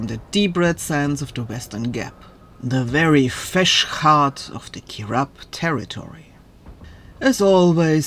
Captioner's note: cursing